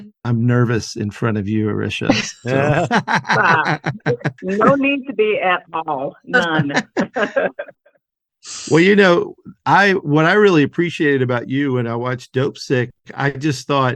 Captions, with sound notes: I'm nervous in front of you, Arischa. [laughter] Stop, no need to be at all. None. [laughs] Well, you know, what I really appreciated about you when I watched Dopesick,